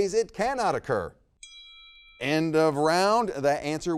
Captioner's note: bell rings